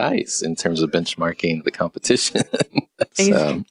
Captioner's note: laughs